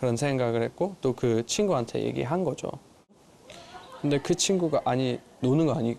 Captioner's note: Korean